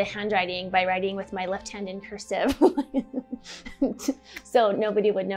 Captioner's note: laughs